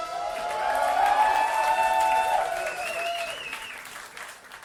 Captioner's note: audience applauding